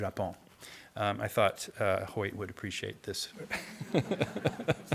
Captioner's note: laughs; audience laughing